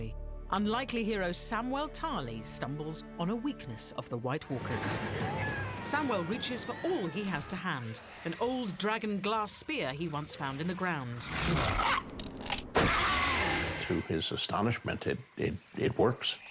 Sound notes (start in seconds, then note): 12.7 screeches